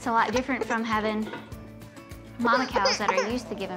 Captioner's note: fussing